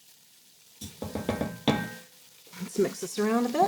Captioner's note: sizzling